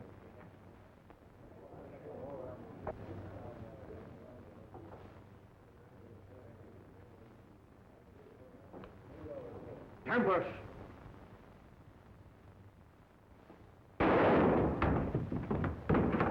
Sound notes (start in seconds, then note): 14.0 gunshot